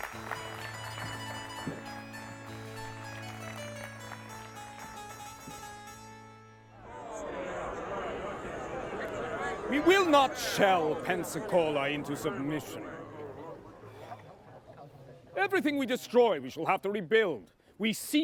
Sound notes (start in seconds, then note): 8.2 recorded clamoring